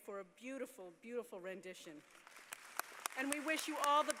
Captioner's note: applause